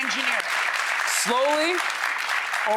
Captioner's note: audience applauds